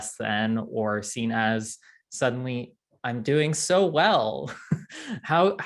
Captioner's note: chuckles